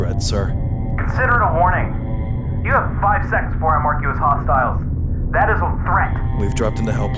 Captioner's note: over Comms